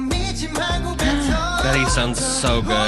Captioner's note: gasp